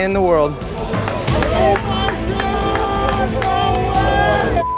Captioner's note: all cheering; beeping